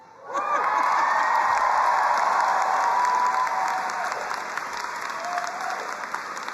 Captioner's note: crowd cheering and applauding